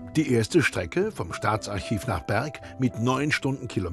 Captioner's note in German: none